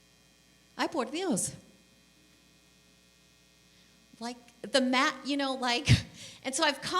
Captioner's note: speaking spanish